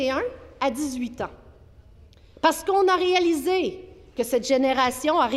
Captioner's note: speaking French